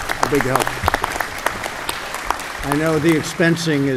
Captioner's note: applause